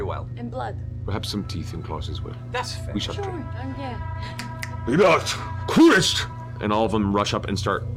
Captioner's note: speaks Draconic